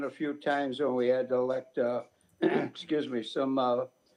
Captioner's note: clears throat